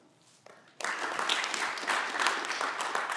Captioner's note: clapping